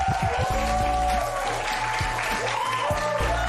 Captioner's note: cheers and applause